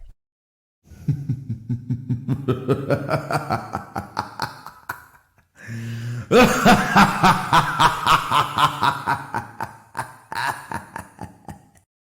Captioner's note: hah! Hah! Hah!